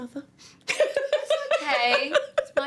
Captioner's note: laughs